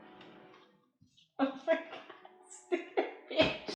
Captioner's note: laughing